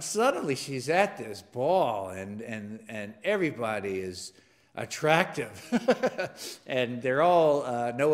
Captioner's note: laugh